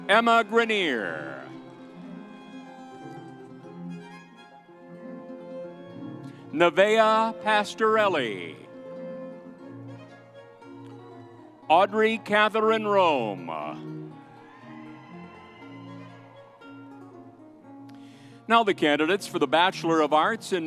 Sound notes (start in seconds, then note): 1.8 vibrant music continues; 8.8 vibrant music continues; 14.1 audience cheers; 14.1 vibrant music continues